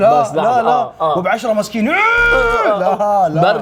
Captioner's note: screams